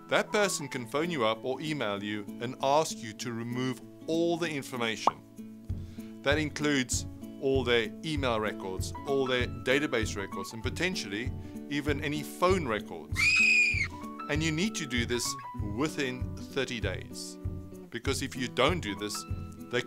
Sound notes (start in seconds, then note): 13.1 screaming